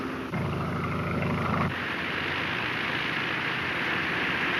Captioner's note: airplane engine roaring